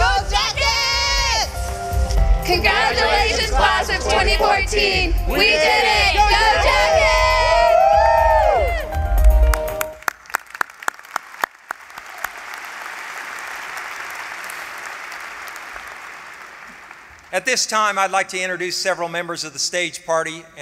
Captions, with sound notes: Go Jackets! Congratulations Class of 2014. We did it! [CHEERING] [APPLAUSE] At this time, I'd like to introduce several members of the stage party